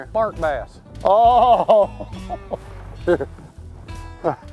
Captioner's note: laughs